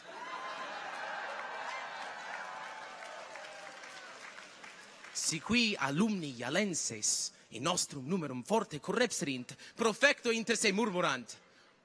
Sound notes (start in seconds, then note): 0.0 people cheer; 0.1 people laugh; 4.2 people clap